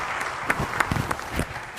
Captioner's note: applause